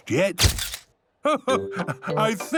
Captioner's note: camera clicks